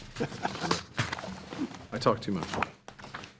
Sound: trustees chuckling

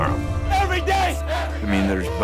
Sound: loud cheering

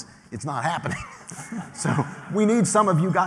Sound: laughter

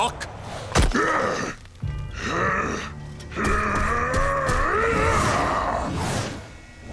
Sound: grunting

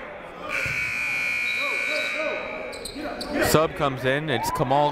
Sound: buzzer ringing

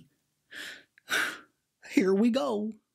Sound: sighs

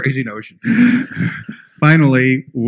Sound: laughter

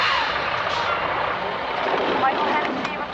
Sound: truck idling; PA speaker

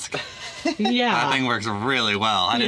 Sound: laughs

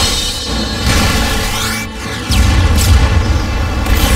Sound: blasting

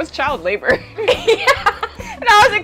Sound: both laughing

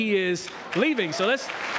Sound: background applause

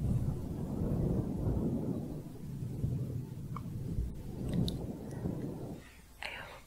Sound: windy sounds

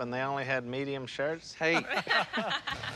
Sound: laughter

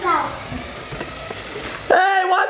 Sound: car whirring

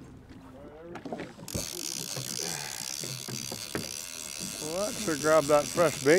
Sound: reel spinning

